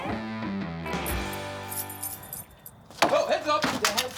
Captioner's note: keys jangling; bar thudding